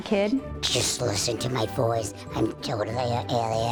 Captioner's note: deep, scratchy voice